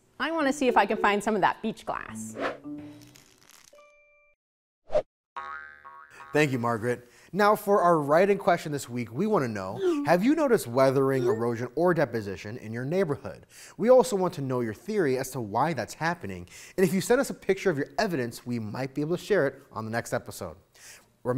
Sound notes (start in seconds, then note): 2.5 whooshing graphic